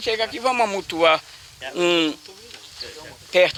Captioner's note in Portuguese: Burburinho de vozes das pessoas ao redor